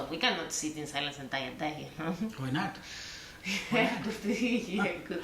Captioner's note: laugh